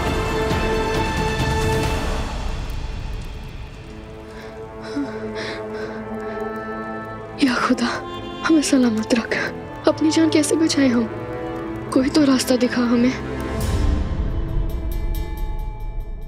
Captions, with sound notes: [whimpering] Lord, please keep me safe. How do I save my life? Show me a way out.